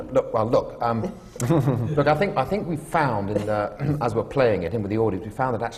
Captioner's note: laughter